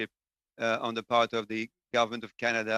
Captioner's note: speaking French